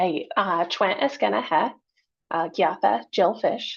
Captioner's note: speaking in foreign language